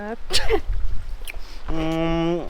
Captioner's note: sneezes